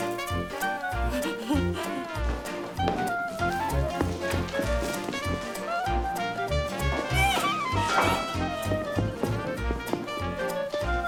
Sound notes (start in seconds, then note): 3.1 giggling; 9.0 giggling